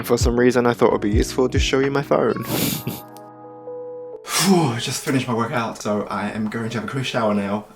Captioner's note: fake exhale